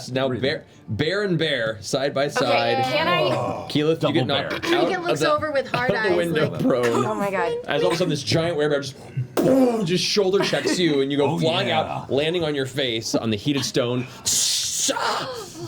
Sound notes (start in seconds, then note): 8.3 impact noise; 14.3 sizzling noise